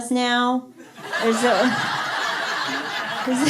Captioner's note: laughter